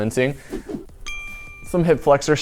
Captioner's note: bell sound